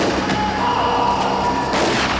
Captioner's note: gun fires; Sticks groans; gun fires; horse neighs